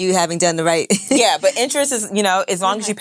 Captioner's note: laughs